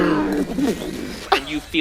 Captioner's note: terrifying destructive creature noises